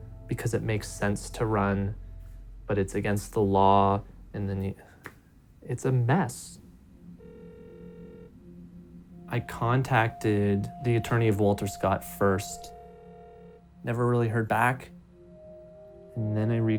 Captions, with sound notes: You have someone running because it makes sense to run, but it's against the law and then the--it's a mess. [phone rings] I contacted the attorney of Walter Scott first. [phone rings] Never really heard back.